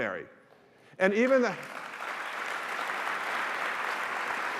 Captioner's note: applause